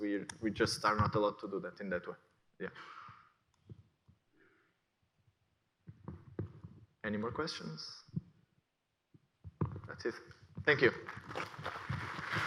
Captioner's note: aplause